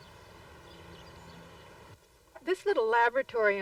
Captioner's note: birdsong